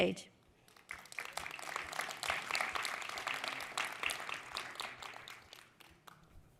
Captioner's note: applause